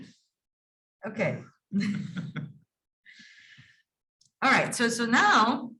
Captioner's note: laughing